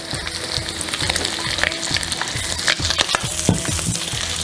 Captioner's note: sizzling